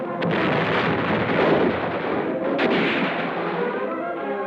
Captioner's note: bombs explode